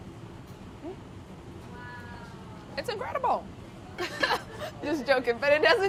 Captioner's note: laughing